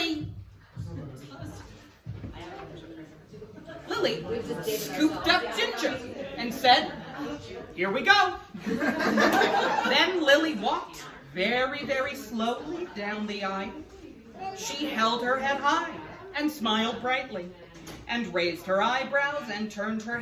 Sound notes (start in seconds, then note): 8.6 laughed